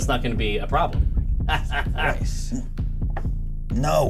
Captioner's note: laughter